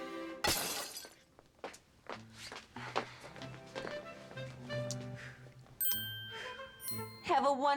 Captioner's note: glass breaks